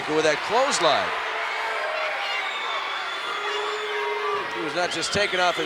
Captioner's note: applause